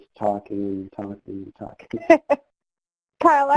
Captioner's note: laughs